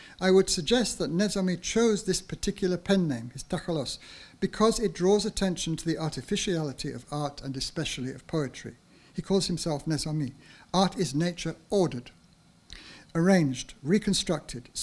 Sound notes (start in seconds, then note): 3.5 speaks in foreign language